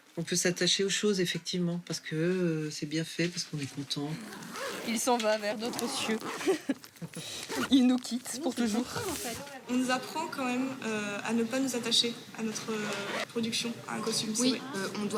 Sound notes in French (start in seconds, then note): 6.4 rires